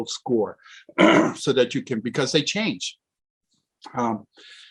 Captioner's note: clears throat